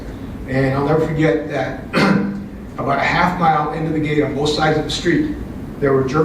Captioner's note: cough